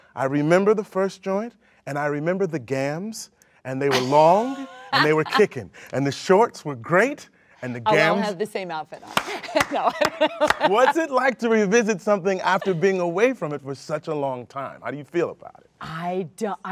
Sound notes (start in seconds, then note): 10.4 clapping